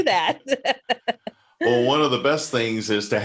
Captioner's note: laughs